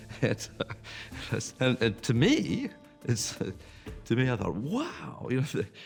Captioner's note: laughing